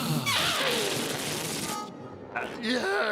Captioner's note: escaping air squealing